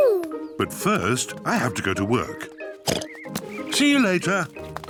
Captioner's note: oinks